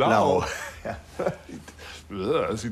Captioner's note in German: kichernd